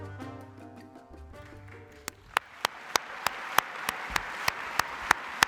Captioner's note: applause